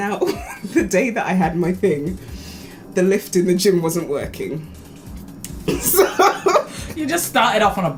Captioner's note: laughs